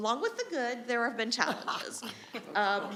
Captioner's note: attendees laughing